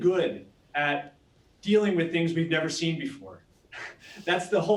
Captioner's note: laughing